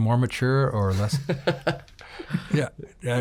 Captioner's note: laughing